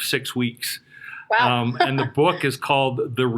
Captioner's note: chuckles